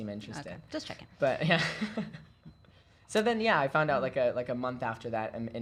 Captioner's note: laughing